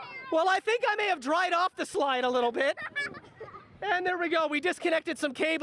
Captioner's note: laughter